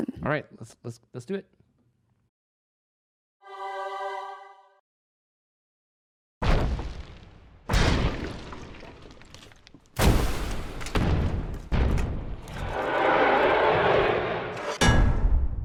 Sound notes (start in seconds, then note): 7.8 crashing noises; 12.6 roar